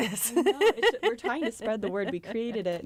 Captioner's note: laughter